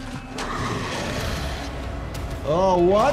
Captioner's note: dramatic music; zombie growling